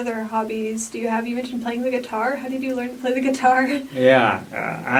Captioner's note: laughs